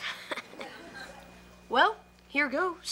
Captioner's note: Ethan laughs